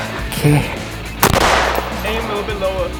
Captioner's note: gun bangs